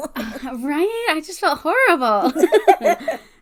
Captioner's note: laughs; sarcastically